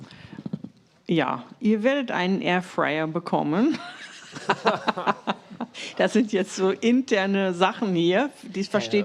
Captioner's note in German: gelächter